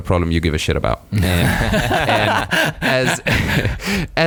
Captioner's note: laughing